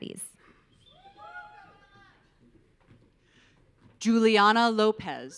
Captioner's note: audience cheering